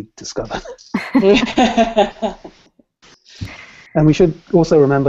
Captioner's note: laughter